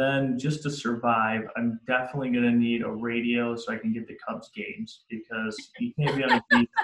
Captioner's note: laughs